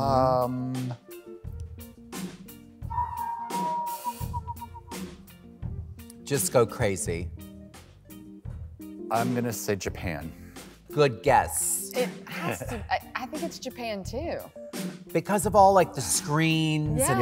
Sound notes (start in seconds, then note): 2.9 whistles